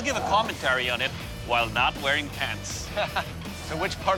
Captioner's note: laughs